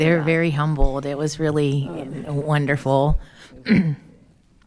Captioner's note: clears throat